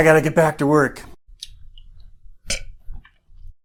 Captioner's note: burps